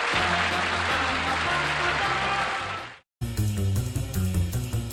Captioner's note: applause